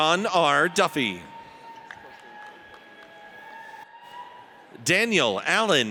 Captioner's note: audience cheers